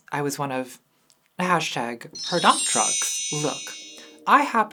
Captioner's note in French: carillons